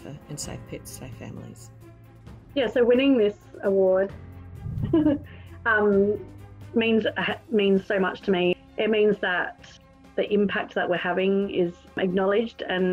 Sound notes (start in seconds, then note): 4.6 giggles